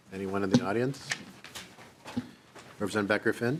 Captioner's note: gavel